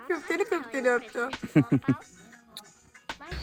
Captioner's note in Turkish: Kahkaha